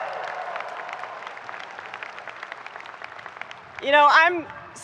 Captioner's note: people clapping